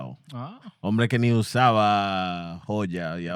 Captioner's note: speaking In Foreign Language